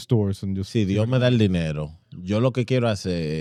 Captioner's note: speaking In Foreign Language